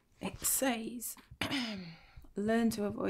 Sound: clears throat

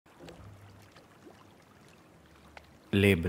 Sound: water droplets falling

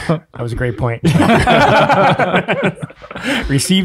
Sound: group laughs

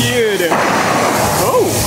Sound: water blasts

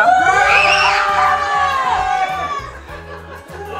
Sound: shouting

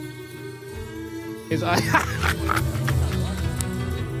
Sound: laughter

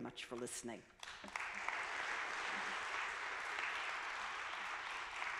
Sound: audience clapping

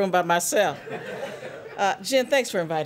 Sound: laughter

